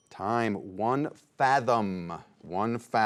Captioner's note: bell dings